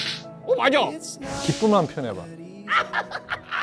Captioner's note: giddy giggling